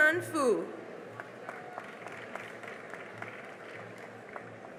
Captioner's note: cheering and applause